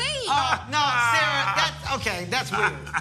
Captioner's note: laughs